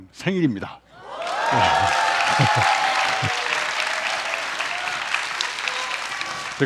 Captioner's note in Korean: 박수